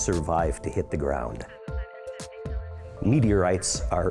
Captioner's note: emergency radio talkng